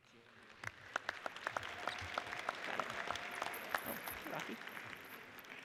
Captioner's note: audience cheers and applauds